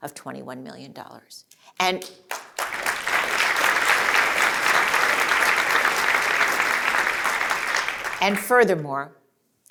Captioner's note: applause